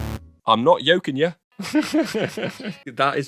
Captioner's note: laughs